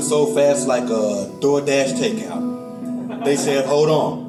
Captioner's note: audience laughs